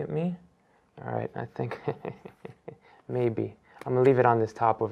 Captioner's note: laughs